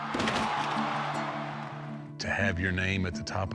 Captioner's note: audience cheering